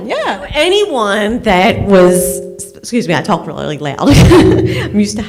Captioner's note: laughs